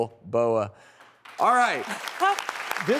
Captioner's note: applause